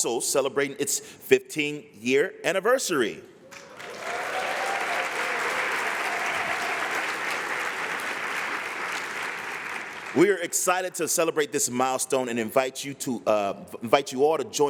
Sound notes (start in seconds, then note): 3.4 applause